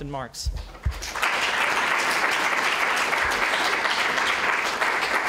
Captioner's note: applause